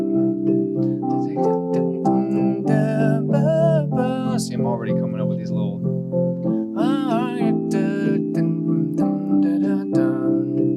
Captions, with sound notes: See, I'm already coming up with these little-- [HUMMING]